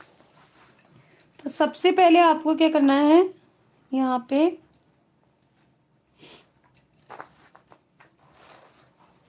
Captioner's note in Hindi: नाक से की जाने वाली आवाज़